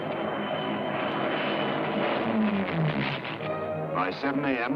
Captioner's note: planes droning